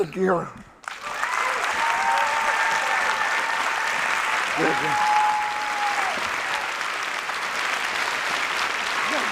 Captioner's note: applause